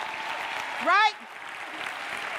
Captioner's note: audience cheering and clapping